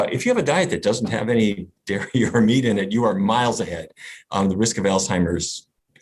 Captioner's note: laughs